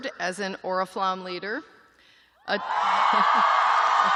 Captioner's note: cheering